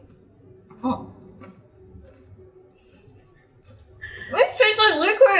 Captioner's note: silence